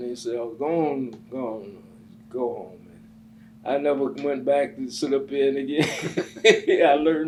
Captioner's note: laughs